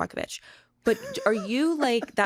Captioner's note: chuckles